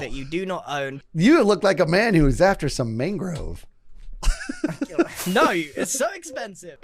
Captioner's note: laughs